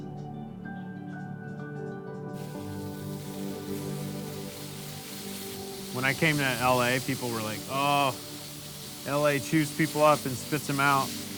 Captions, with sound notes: (water gushing) When I came to L.A. people were like, Oh, L.A. chews people up and spit them out.